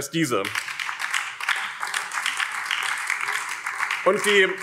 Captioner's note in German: Beifall BÜNDNIS 90/DIE GRÜNEN